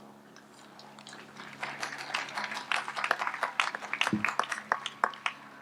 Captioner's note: audience applauds